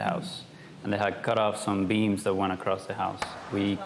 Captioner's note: none